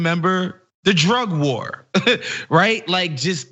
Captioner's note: laugh